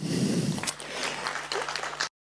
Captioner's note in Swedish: Applåder